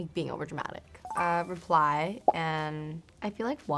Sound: chiming

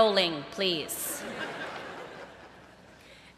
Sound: laughter

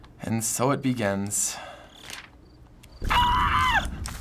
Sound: quiet scream

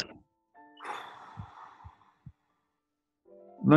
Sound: sighs

